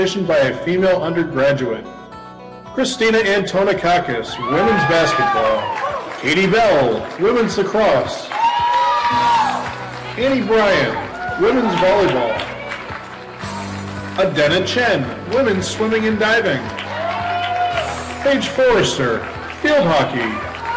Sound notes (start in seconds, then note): 5.1 audience cheering; 5.1 audience clapping; 8.6 audience cheering; 8.6 audience clapping; 11.8 audience cheering; 11.8 audience clapping; 16.4 audience cheering; 17.1 audience clapping; 20.5 audience cheering; 20.5 audience clapping